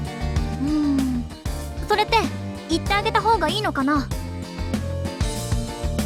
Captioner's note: sigh